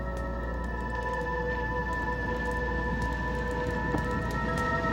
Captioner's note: flames crackling